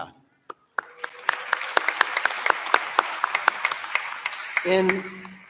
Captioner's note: applause